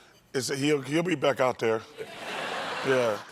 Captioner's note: laughter